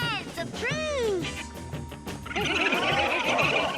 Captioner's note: squirrels chirping